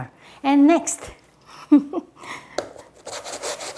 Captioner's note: chuckles